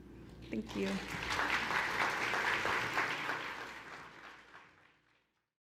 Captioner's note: audience applauding